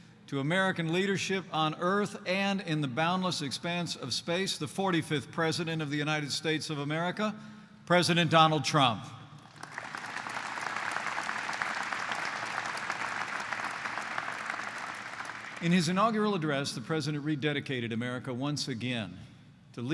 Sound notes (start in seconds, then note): 9.4 applause